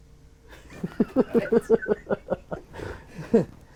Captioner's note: laughing